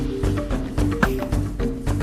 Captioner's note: lasso casts